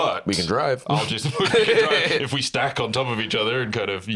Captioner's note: laughs